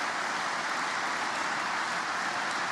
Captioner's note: applause